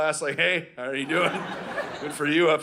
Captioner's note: audience laughing